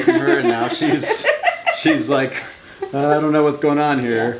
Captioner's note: mom laughs